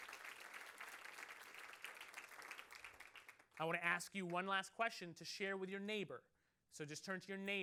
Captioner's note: applause